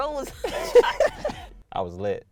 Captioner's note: both laughing